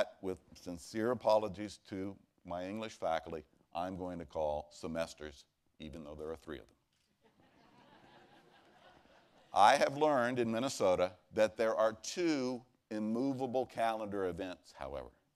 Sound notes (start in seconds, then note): 7.2 laughter